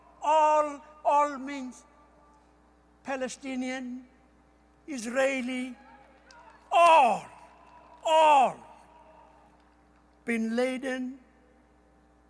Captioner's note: cheering